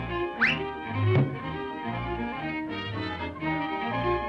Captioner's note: bright music; Felix thudding